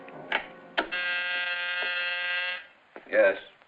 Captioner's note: buzzer buzzing